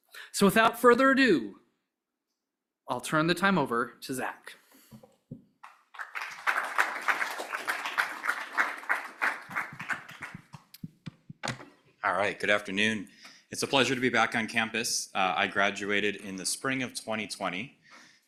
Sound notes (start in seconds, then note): 5.6 applause